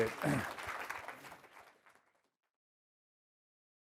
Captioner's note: applause